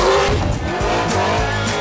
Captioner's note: booooooommmm!!!